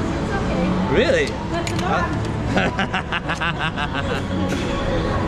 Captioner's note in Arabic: يضحك